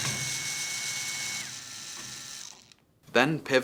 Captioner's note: screwdriver whirs